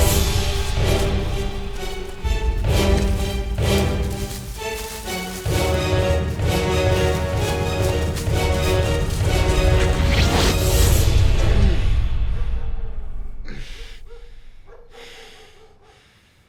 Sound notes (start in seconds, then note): 10.1 gun firing; 13.9 dog barking in distance